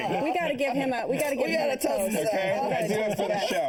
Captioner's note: laughter